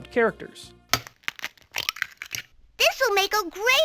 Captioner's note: egg cracking